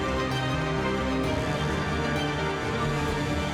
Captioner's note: none